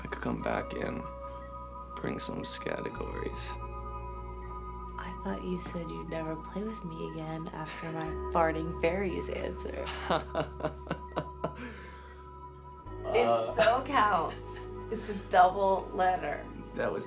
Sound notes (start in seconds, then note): 9.9 Drew laughs